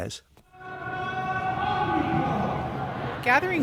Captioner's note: crowd chanting